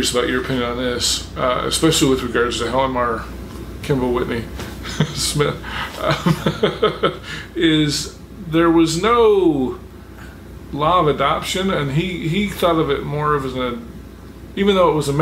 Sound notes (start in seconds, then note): 4.7 chuckling